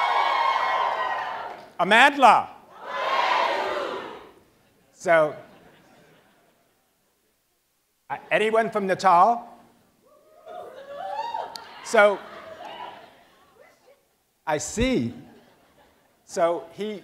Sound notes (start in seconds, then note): 10.1 cheers